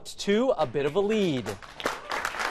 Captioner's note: applause